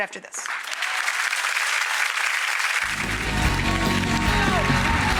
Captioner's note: audience applauding